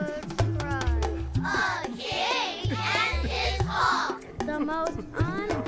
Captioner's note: patrons crying quietly